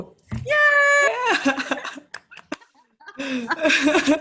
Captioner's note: laughs